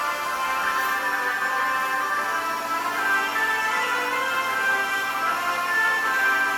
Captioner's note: christmas music continues; circular saw buzzing